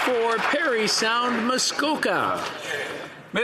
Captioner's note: some Applause